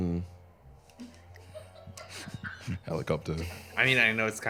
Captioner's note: laughs